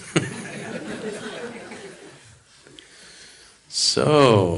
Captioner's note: laughs